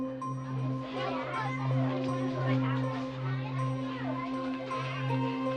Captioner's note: kids chattering